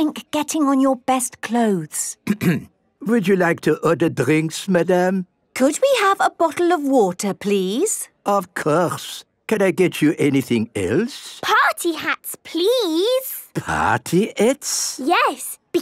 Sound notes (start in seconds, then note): 2.2 clears throat